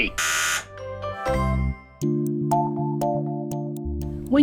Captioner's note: buzzer buzzes